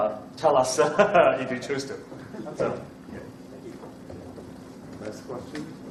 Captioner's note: laughs